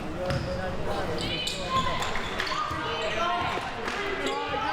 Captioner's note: clapping